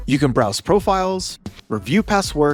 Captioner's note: none